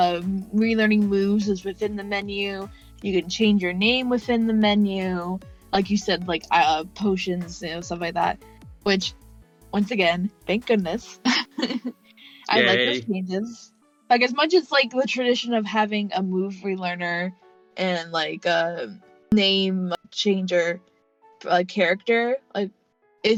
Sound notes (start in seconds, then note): 12.3 laughs